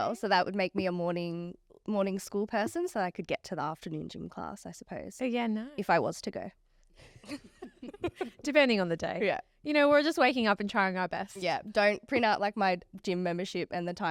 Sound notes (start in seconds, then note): 7.2 all laughing